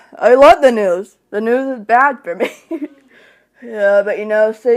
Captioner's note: laughs